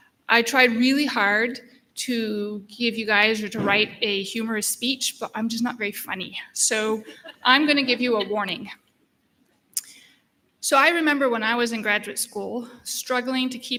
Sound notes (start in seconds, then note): 7.0 laughter